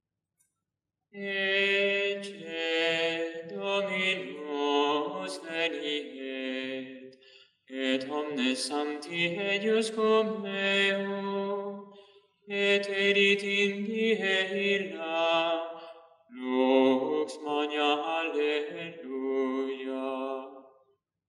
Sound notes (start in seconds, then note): 0.9 chant